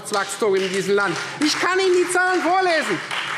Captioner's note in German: Beifall Freie Demokraten